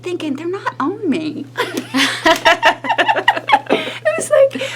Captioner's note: laughing